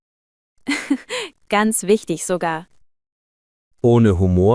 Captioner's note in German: lacht